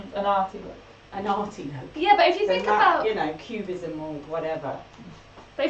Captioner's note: laughs